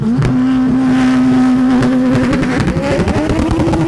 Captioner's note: car revving